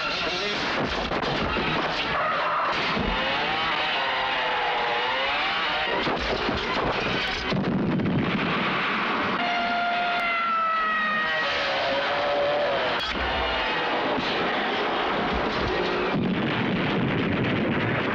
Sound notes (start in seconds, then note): 1.3 brakes squeal; 7.4 bike explodes; 9.3 police siren blares; 16.1 bike explodes